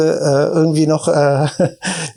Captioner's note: chuckles